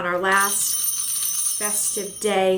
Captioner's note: bells jingling